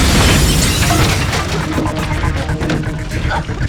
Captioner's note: explosion